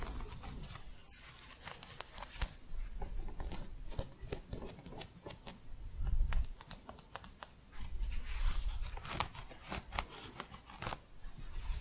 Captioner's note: scraping, tapping, and crunchy scratching